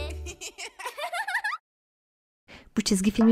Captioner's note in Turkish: Gülme sesleri